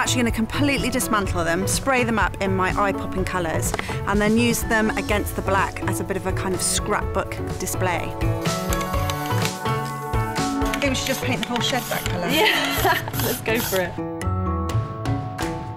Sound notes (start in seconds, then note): 12.2 laughs